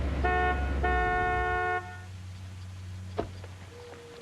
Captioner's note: horn honks